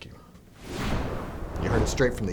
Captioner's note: logo whooshes